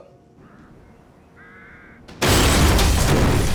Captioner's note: bird squawks